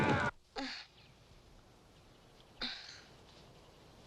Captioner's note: Tommy groans